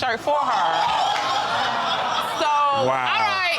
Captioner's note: exclaiming, laughter